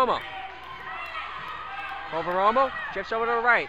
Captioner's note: crowd talking and yelling